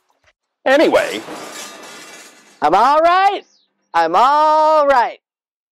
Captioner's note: clanking sounds